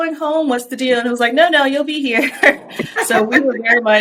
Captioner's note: chuckles